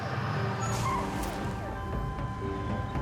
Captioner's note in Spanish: sonido de motores; chirrido de neumáticos; sonido de sirenas